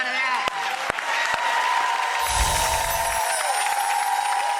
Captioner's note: audience cheers